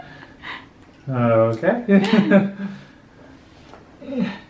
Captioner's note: laughs